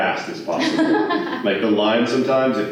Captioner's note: laughter